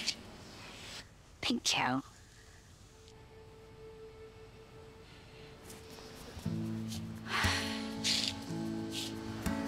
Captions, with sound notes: - Thank you. - Okay. (exhales deeply)